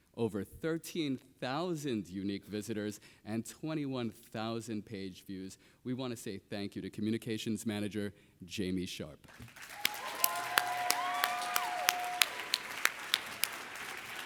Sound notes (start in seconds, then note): 9.3 everybody applauding